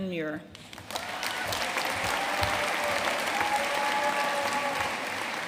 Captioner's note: audience cheering and applauding